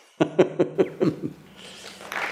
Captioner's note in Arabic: يضحك